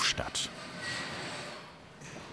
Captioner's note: squeaking